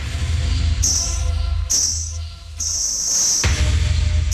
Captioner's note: Anklets tinkling